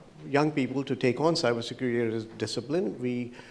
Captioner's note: none